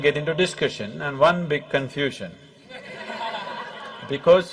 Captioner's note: laughter